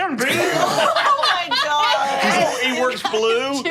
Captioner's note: group laughing